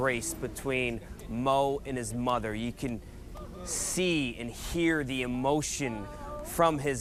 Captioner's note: crying